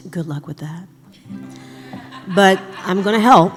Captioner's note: laughter